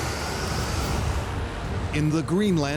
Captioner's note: wind howling